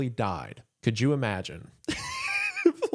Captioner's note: laughs